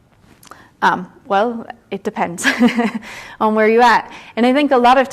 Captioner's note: chuckles